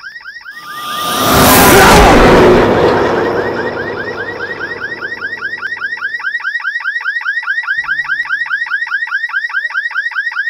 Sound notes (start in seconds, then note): 0.6 truck speeding; 2.9 car beeping